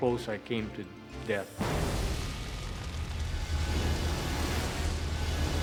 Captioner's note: fire whooshes